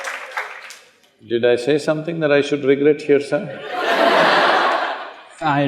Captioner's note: laughter